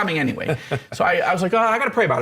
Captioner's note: laughs